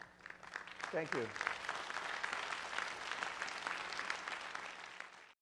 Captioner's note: applause